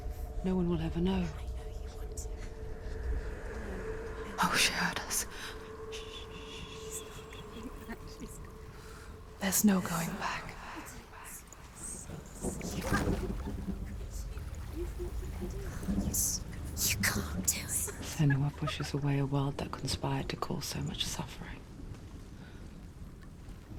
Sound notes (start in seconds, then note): 6.5 shushes; 14.4 mocking laughter